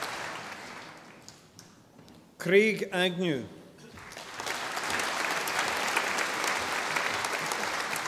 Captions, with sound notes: Craig Agnew. (audience applauding)